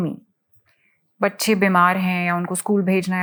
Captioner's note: speaking in foreign language